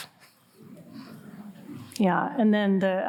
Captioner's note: audience laughing